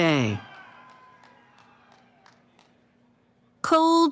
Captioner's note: cheering